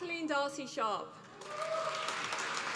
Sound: applause

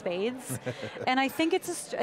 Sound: laughs

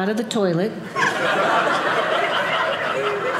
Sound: audience laughing

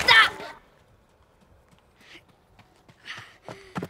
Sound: running footsteps

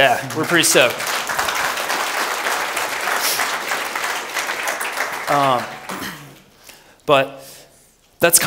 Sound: applause

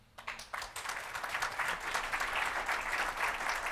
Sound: audience applauding

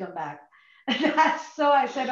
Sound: laughs

